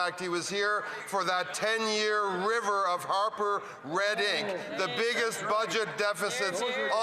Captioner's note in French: voix de l'interprète